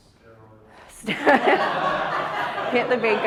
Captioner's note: audience laughs